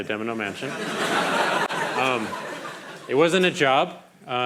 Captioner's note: crowd laughing